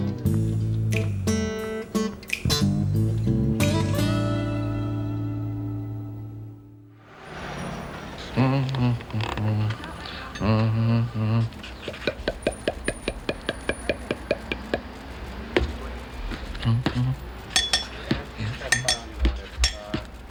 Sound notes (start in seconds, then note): 8.2 humming; 17.4 clinking glass